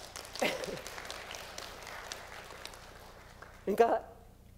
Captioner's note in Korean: 박수